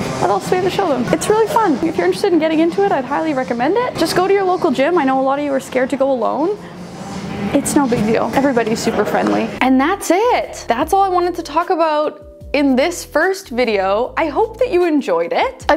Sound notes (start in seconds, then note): none